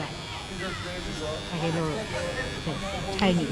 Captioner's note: whirring